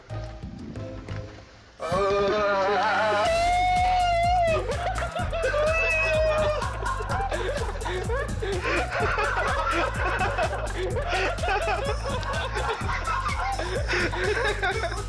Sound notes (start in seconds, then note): 0.0 gentle music; 1.8 screaming; 3.8 friends laughing; 3.8 screaming; 5.5 friends laughing